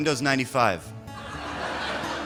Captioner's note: laughter